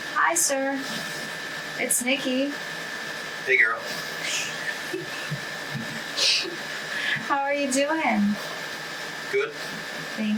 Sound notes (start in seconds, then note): 4.3 chuckles